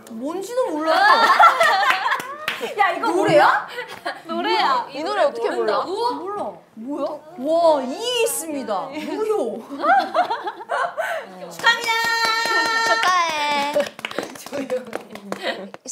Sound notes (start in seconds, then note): 9.7 laughing